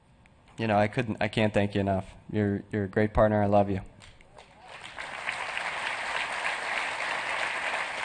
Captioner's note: applause